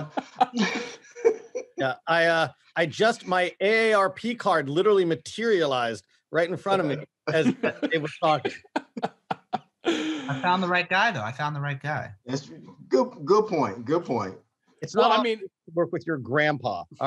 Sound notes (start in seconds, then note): 0.0 men laughing; 7.2 man laughing